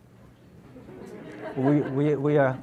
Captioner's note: audience laughs